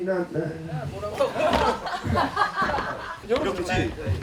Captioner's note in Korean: ㅋㅋ